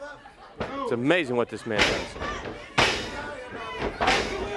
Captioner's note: crowd chatter